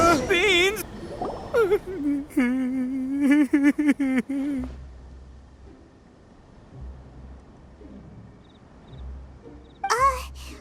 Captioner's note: whimpering